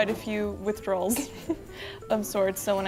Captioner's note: laughs